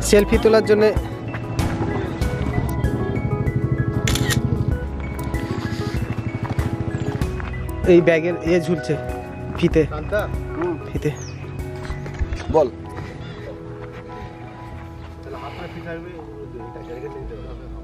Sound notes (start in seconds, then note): 4.0 camera click